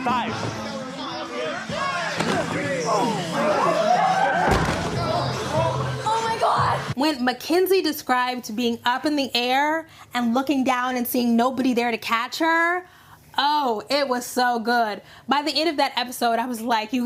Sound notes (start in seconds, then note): 3.9 cheerleaders gasping; 4.5 body hitting floor; 4.9 shocked exclamations